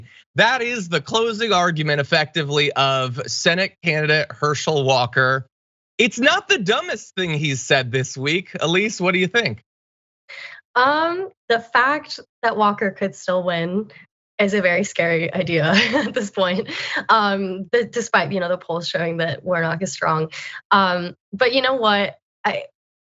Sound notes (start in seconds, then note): 15.1 laugh